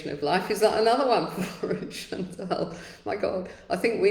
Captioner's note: laughs